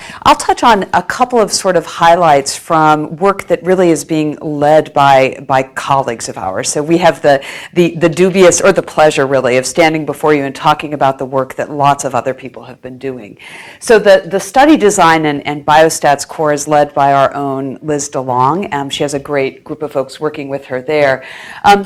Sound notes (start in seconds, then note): none